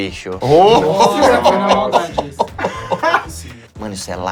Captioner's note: risos